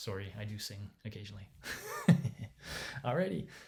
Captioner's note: laughing